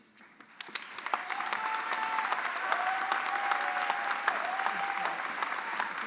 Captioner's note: audience cheering and applauding